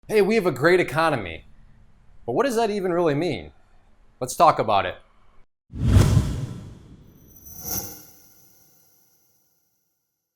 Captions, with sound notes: Hey, we have a great economy but what does that even really mean? Let's talk about it. (swooshing)